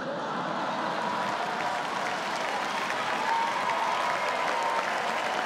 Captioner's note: laughter and applause